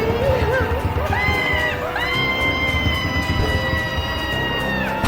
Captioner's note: Barbra screaming